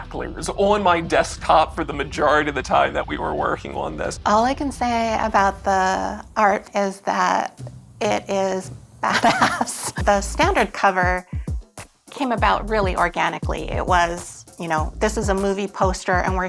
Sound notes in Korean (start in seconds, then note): 9.0 웃음소리